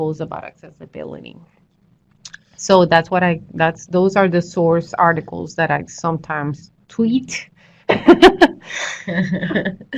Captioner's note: laughter